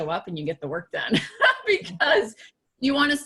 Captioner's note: laughing